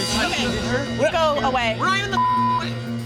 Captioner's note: beep